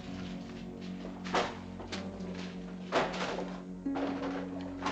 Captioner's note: books clattering